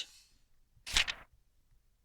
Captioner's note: page turns